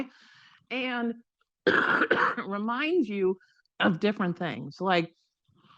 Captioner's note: coughs